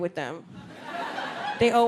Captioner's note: audience laughs